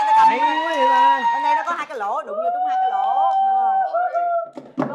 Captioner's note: cheering sound